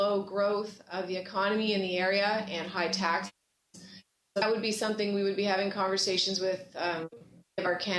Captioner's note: broken audio